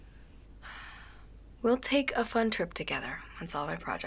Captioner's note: sighs